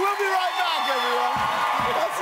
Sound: audience cheers

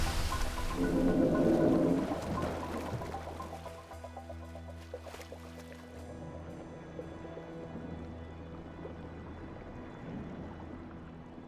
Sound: whale blow, groan

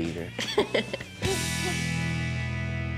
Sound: laughing

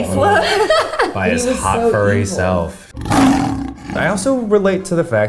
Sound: Beast growling

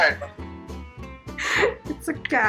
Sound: laughing

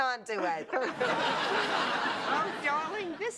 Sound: laughter

